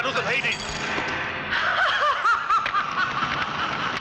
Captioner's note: laughing